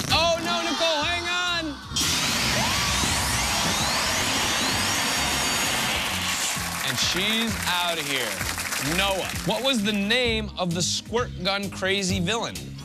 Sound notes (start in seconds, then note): 1.9 alarm sounds